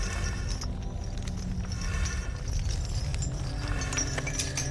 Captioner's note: chains rattling